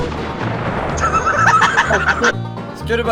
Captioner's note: culmination of evil itself cackles victoriously